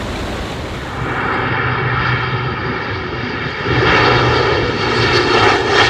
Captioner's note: plane engine roaring